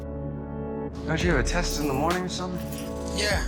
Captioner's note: voiceover